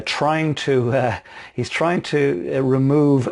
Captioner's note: laughs